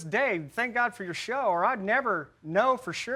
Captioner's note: none